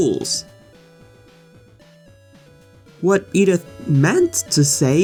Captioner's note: awkward Pause